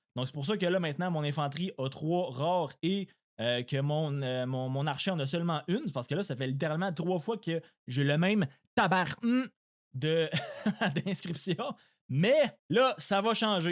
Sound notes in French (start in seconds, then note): 10.3 rires